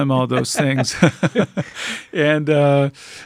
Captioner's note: laughing